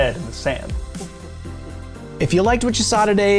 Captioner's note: sensible chuckle intensifies